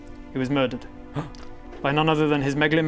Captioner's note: gasp!